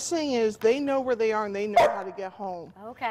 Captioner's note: dog barking